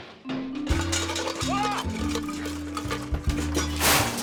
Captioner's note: crashing noises